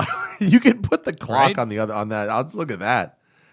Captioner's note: laughter